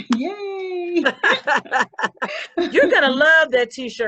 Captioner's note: laughing